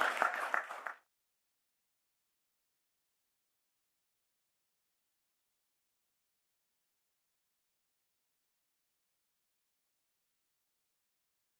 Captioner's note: applause